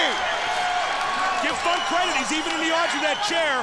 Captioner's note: crowd cheering